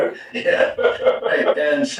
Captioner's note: chuckling